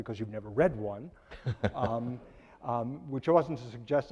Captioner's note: laughing